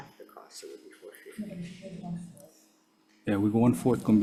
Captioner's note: faintly speaking